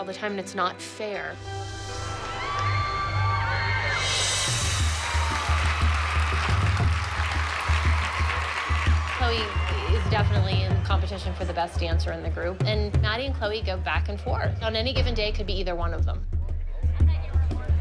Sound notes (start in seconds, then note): 2.2 cheering; 3.3 cymbal roll; 4.1 tribal music